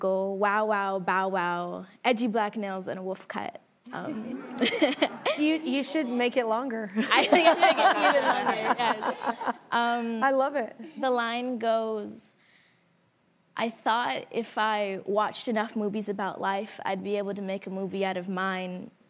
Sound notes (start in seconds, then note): 4.0 laughing; 4.0 audience laughing; 7.0 laughs